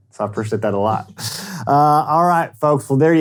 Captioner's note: laughing